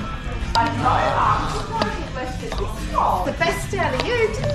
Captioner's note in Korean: 시끌시끌